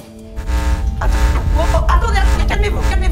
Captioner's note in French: bruits d'interférences